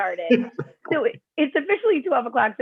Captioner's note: laughter